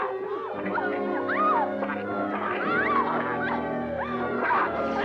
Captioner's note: Pilar yelling